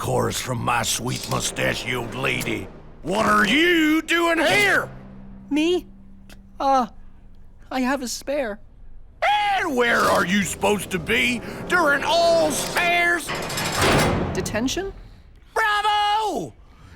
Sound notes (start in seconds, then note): none